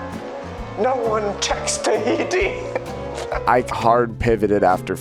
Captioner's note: laughs